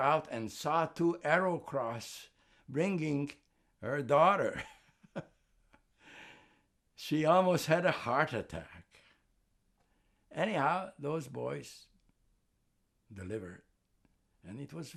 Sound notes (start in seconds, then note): 4.8 laughing